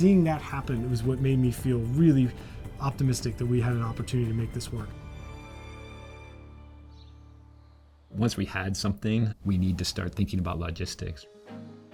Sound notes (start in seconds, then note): 6.6 birds chirping